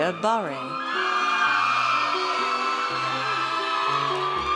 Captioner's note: audience cheers